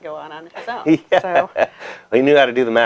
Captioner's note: laughs